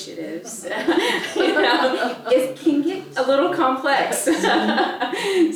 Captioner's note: laugh